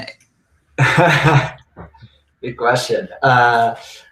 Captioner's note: laughing